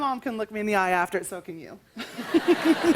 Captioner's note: laughter